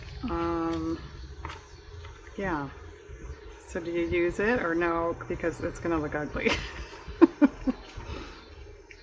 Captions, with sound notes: yeah so do you use it or no because it's going to look ugly (laughs)